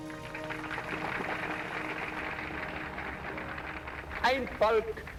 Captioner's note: applause